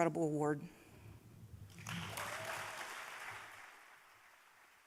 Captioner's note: applause